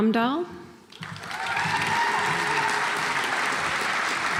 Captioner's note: audience applauds